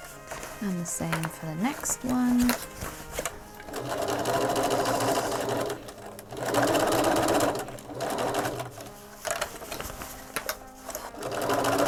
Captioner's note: sewing